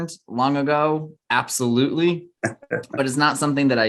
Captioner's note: chuckles